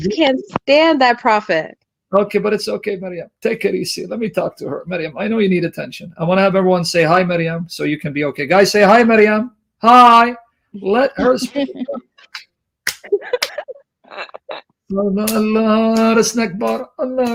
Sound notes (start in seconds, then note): 12.9 laughing